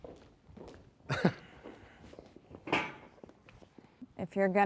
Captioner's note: chuckles nervously